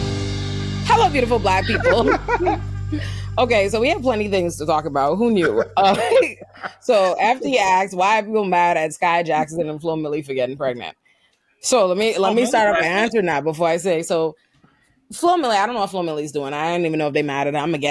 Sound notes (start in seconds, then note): 1.0 laughing